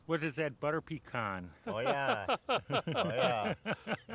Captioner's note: laughing